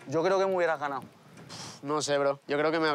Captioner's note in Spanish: resopla